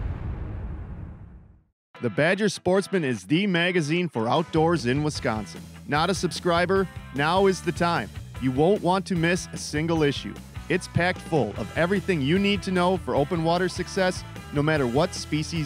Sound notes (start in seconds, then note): 2.0 voiceover